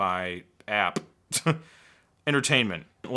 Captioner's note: laughs